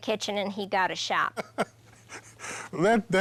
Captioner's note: laughing